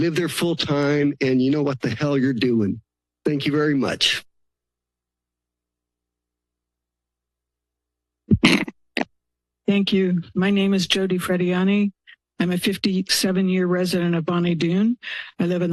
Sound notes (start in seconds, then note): 4.1 silence